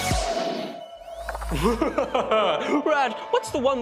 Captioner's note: laughs evilly